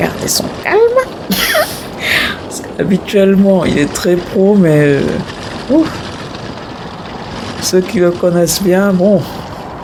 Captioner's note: laughs